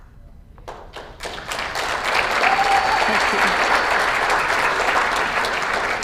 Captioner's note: applause